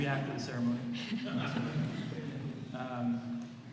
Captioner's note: laughter